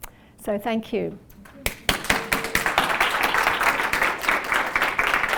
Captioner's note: applause